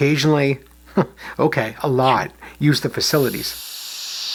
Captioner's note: chuckles; toilet flushing